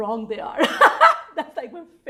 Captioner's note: loudly laughing